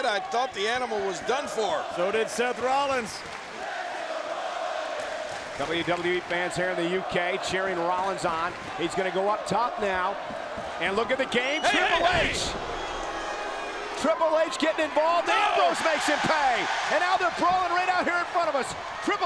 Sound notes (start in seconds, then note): 3.5 audience chanting and clapping; 16.5 audience cheers